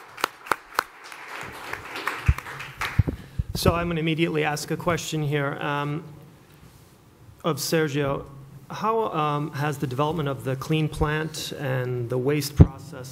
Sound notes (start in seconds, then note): 2.6 applause